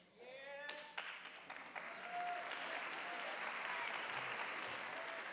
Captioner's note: audience applauding